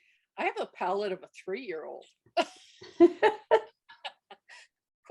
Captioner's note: laughs